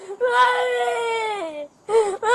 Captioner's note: crying